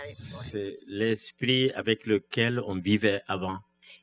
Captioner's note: speaking french